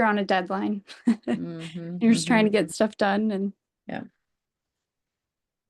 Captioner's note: laughs